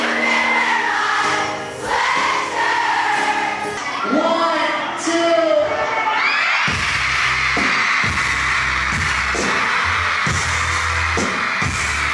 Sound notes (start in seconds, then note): 5.5 crowd cheering; 6.6 live music